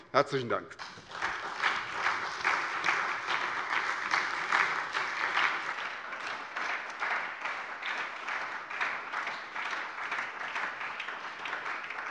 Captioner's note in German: Beifall bei der SPD